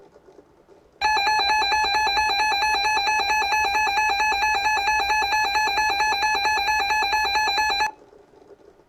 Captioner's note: DirecTV receiver starts alarming